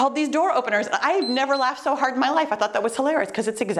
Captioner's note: timer beeps